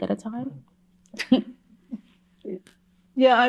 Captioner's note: chuckles